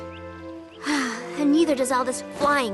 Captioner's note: sigh